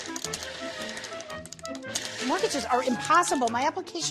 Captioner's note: tapping